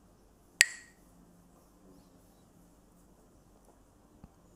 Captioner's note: Mooji clacks the sticks